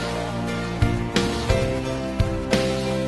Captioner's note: none